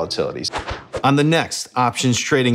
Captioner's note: air whooshing